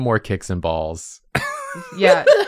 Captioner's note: laughter